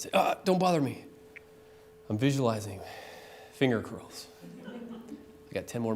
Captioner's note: laughter